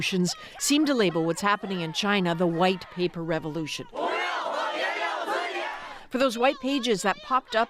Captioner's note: chanting